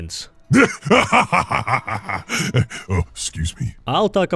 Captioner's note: laughter